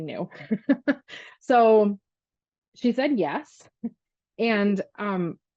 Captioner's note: laughs